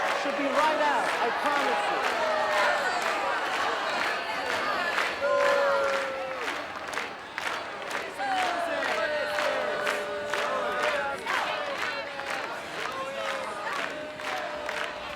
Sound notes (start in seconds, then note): 3.1 booing and clapping rhythmically; 8.1 chanting Zoe and clapping